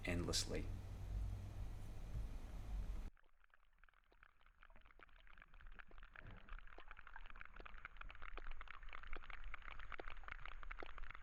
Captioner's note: sperm whale codas and clicking